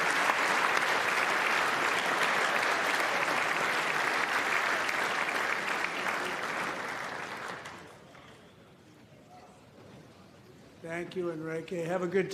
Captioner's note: applause